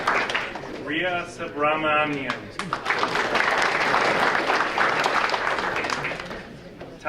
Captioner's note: audience applauding